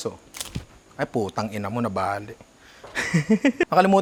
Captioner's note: laughs